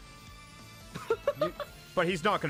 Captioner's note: laughs